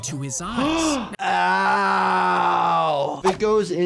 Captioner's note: gasps